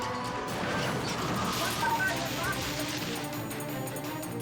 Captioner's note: car crashes; tires screeching